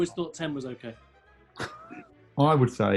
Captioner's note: laughs